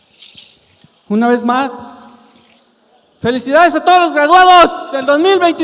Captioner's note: speaking in Spanish